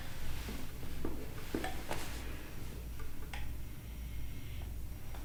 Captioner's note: he is so drunk that he can’t control his body and starts mumbling